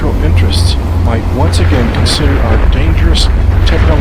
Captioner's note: bombs explode